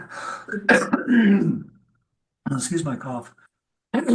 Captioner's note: coughs